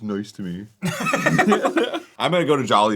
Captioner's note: the boys laugh